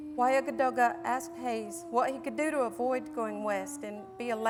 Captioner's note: non-english